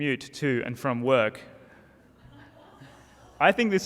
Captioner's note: audience laughter